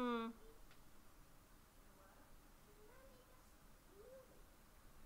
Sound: concerned hum

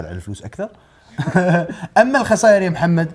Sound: laughs

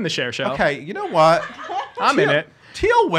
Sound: laughing

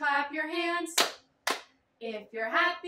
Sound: clap

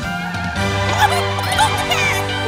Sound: clucking

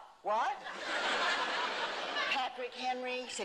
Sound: laughter

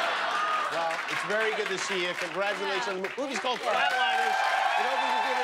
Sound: laughter

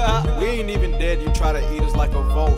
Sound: haha

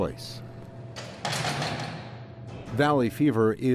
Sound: sound of cell door closing

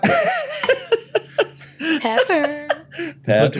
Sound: laughs

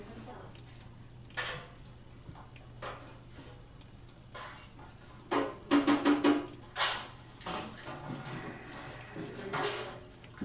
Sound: running water & dishes clinking

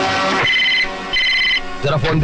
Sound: phone Ringing

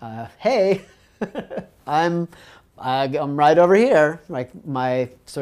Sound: laugh

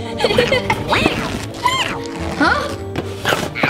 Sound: giggling; vocalizing

